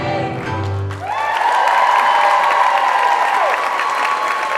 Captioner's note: crowd cheering